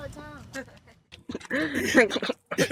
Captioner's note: laughing; laughs